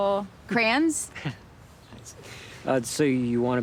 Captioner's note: Anthony chuckles